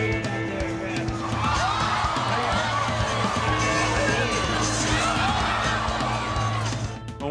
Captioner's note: crowd gasps